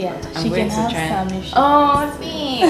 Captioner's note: laughs